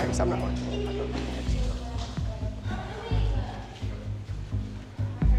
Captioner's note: indistinct chatter